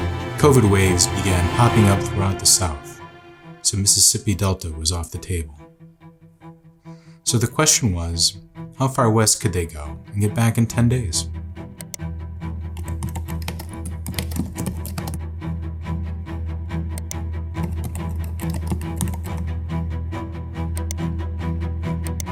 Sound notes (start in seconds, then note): 12.8 typing sounds; 17.0 tense string music continues playing